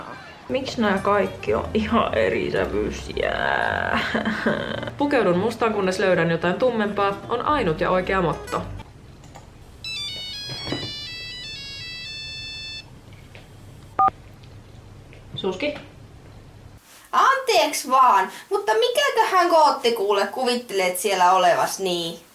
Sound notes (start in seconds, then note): 9.8 phone rings